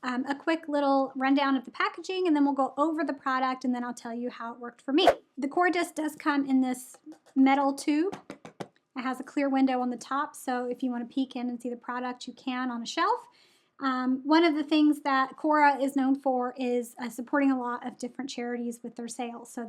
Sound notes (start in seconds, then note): 5.0 air whooshes; 8.0 knocks on metal can